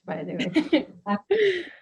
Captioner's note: laughs